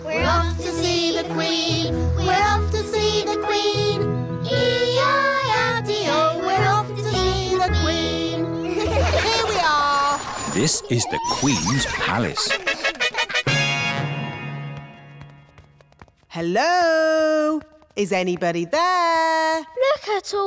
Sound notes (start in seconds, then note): 8.6 all giggle